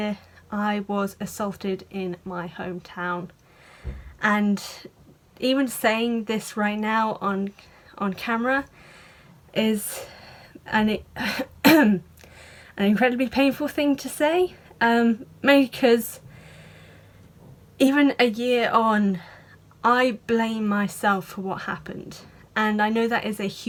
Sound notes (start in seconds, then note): 11.6 clears throat